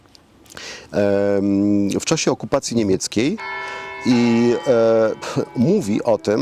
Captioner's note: bell ringing